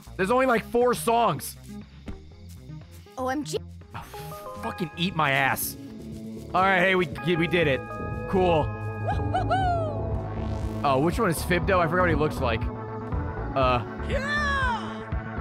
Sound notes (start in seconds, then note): 4.0 sighs